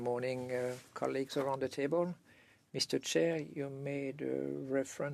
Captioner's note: speaking French